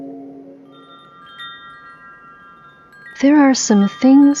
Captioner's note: wind chimes, underlying